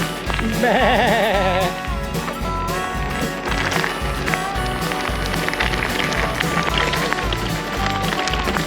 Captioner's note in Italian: Applauso; Applauso